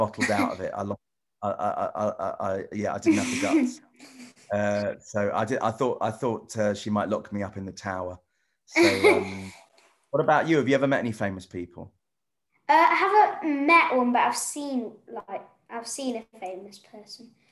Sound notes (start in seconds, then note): 7.6 laughs